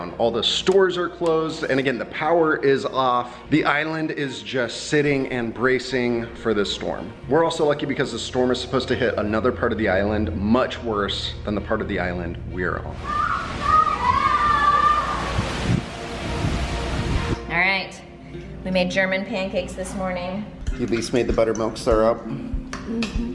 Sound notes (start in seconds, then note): 12.9 kids screaming